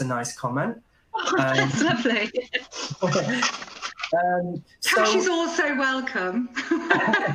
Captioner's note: laughing; laughter